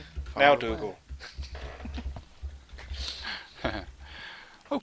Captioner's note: laughter